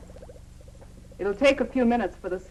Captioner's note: liquid bubbling